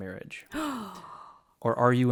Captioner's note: gasps